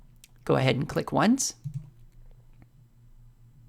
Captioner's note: click